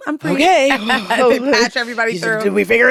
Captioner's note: laughs